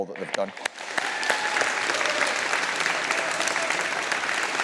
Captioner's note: all applauding